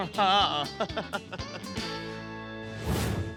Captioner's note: laughter